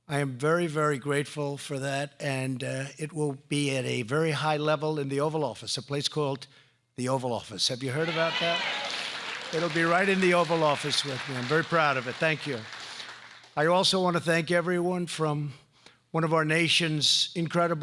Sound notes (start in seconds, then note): 8.0 applause